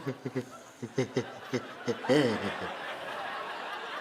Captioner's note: sobbing